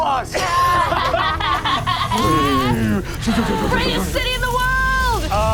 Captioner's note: imitates rumbling